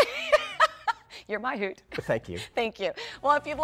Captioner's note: laughter